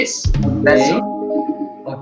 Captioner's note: in Spanish